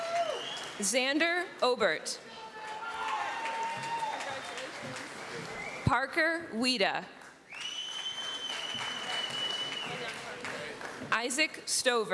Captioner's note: applause